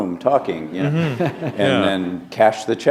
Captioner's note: laughter